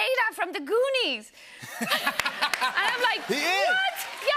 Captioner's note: laughter